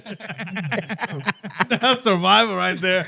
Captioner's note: laughing